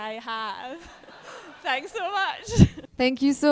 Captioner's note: group laughing